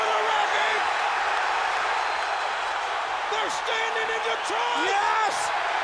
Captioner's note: applause